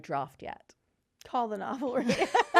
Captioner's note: laughing